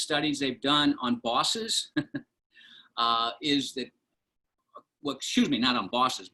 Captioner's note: laughter